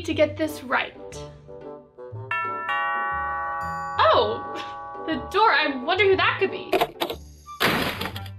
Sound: doorbell

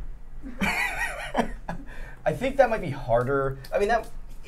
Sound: laughing

